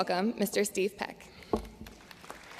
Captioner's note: applause